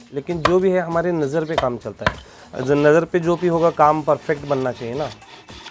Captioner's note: speaking foreign language